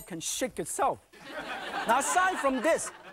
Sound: audience laughing

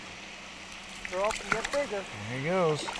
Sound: fish splashing

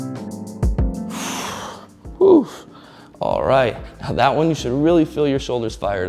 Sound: rhythmic hip-hop instrumental music; exhales deeply

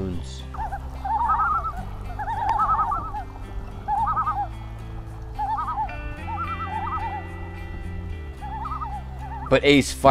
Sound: excited loon calls

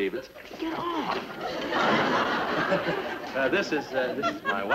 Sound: audience laughter

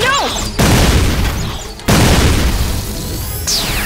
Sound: explosion; zapping

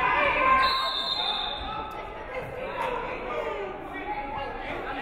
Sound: referee whistles

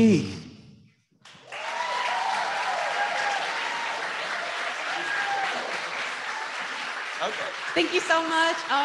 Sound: applause

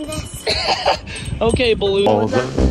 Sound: laughs

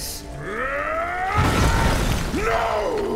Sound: screaming

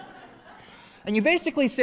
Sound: laughter

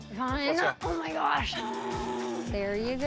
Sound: buzzer buzzes

